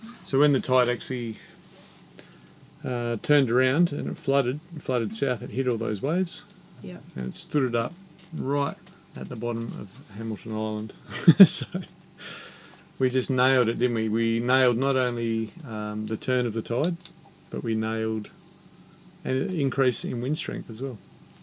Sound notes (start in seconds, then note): 11.1 laughs